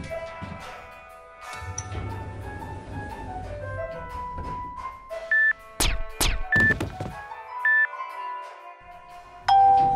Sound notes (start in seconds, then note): 5.8 silenced gunshots; 6.6 loud thud